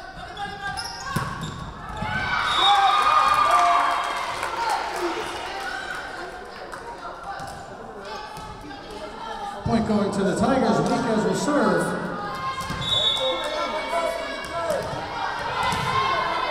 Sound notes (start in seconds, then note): 2.0 crowd cheering; 2.4 whistle blowing; 12.8 whistle blowing